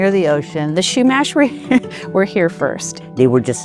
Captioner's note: chuckles